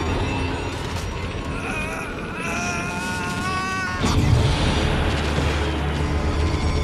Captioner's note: screaming